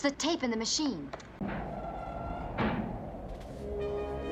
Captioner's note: creak, thud; wind whistling & howling